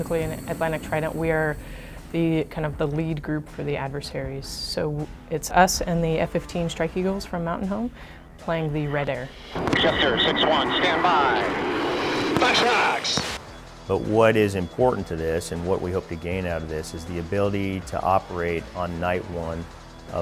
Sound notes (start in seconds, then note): 9.2 radio transmissions